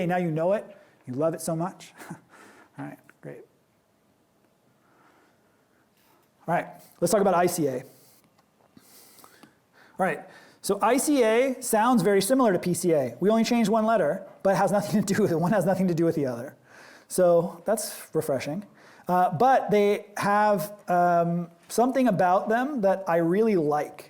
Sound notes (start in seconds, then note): 1.9 chuckle